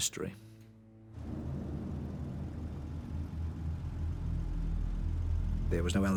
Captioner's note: ominous music; vehicle engine rumbles